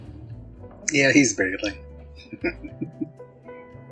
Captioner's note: chuckling